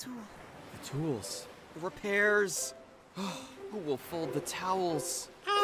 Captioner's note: sigh